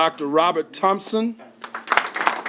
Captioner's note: applause